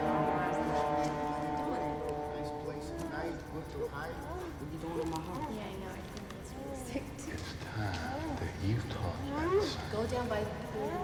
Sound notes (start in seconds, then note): 1.7 people chattering